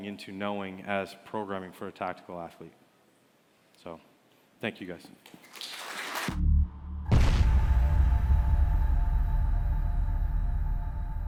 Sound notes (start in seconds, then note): 5.4 applause